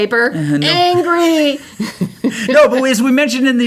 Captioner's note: laughter